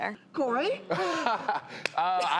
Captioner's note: laughing